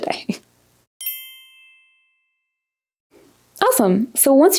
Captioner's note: bells chiming